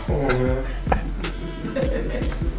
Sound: all laughing

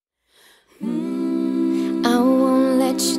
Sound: hums

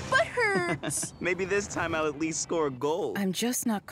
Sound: chuckling

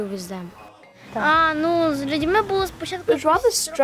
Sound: speaks ukrainian

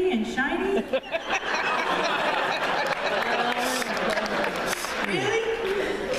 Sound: laughter

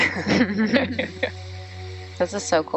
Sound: people laughing

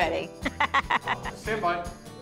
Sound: laughs

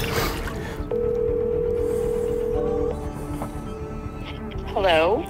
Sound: telephone ringing

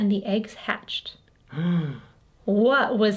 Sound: Math Dad gasps

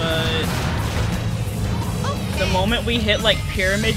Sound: mechanical sounds

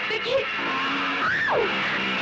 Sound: screams

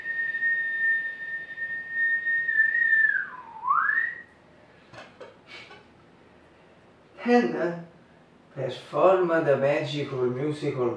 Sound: whistle; whistle

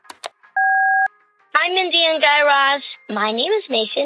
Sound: soundbite of beep

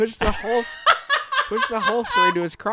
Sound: laughing hysterically

